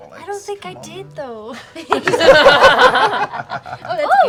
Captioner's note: laughter